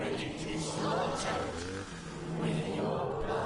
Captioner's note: chainsaw revving